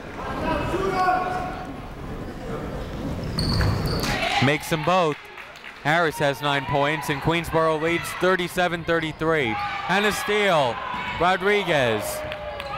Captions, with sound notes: (people shouting in the crowd) Makes 'em both. Harris has nine points and Queensborough leads 37-33, and a steal. Rodriguez.